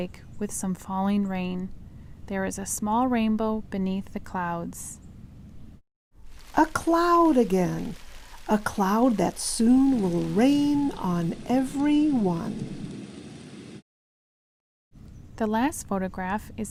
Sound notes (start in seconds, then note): 12.1 rain sounds